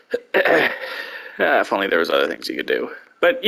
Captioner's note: coughs